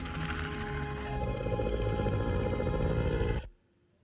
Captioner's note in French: bruit de monstre